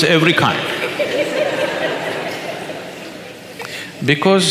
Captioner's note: audience laughs